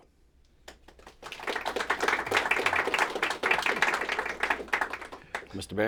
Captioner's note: applause